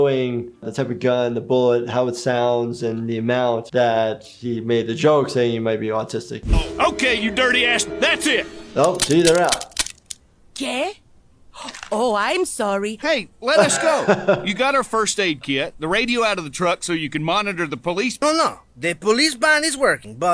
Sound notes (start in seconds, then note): 8.8 guns clicking; 13.6 laughs